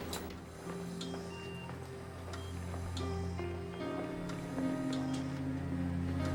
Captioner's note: machines beeping; solemn music